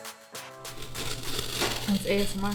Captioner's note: box cutter grinding